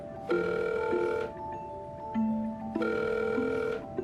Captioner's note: phone ringing